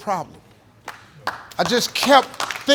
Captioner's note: audience applauding